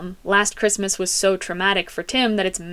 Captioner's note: none